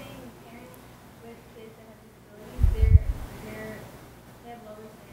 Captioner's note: murmuring question